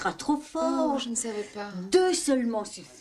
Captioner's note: speaking french